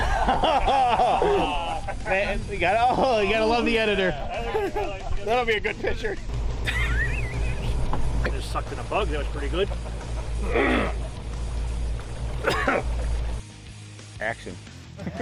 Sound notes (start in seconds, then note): 0.1 men laughing; 6.6 man laughing; 10.7 man clearing throat